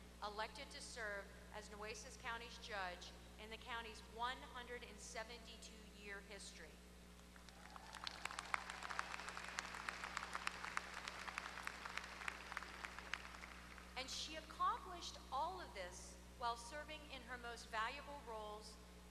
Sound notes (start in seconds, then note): 7.4 applause